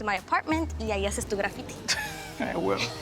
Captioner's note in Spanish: Risas